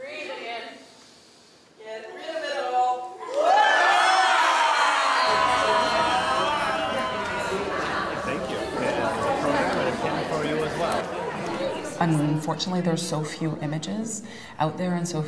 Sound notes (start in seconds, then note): 3.2 all exhale/yell out; 7.7 background chatter